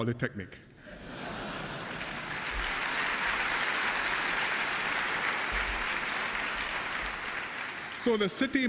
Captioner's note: cheers and applause